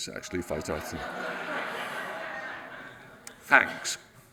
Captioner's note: audience laughs